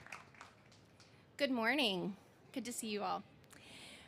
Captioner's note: cheers and applause